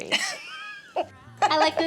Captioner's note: laughing